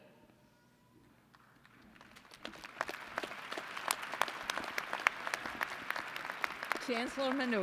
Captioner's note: applause